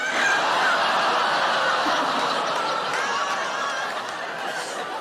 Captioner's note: audience laughing and groaning